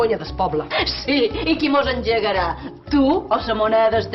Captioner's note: challenging laugh